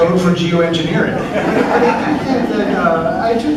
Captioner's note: laughter